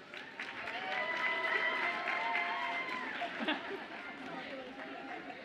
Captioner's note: audience applauds and cheers